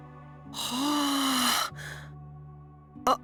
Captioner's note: surprised gasp